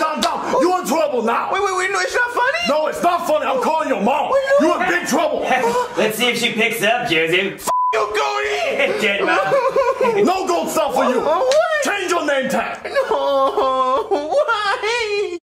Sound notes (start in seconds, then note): 8.0 Joseph sobbing; 8.8 laughs; 12.6 sobbing